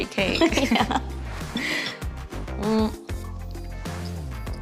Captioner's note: laughing